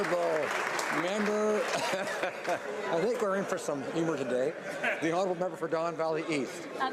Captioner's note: applause